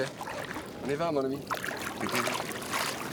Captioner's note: speaking French